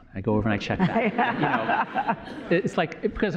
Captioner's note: laughter